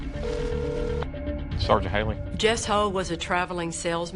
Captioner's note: line ringing